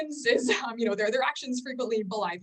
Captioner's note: chuckles